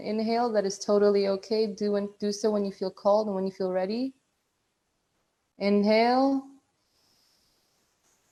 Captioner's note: breathing in